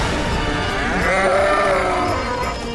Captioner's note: bull grunts